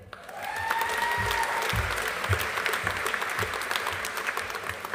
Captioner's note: audience applauding